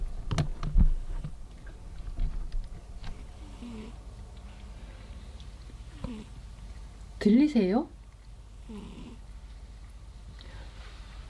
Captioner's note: TT snoring ASMR